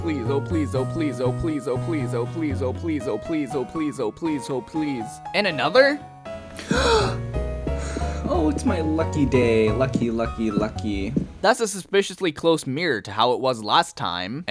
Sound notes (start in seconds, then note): 6.5 gasp